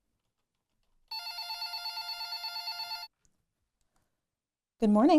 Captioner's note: phone rings